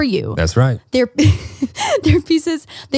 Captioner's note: laughing